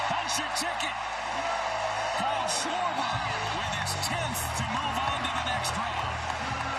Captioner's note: cheering